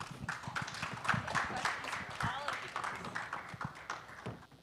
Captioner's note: audience applauding